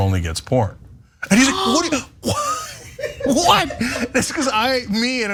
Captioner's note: laugh